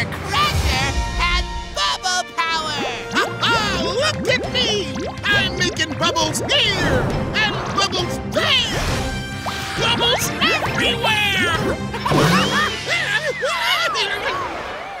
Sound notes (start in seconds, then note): 11.9 laughing; 12.4 screaming